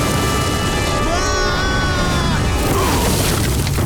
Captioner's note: screaming; grunting